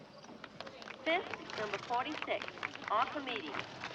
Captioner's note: announcer Over Speaker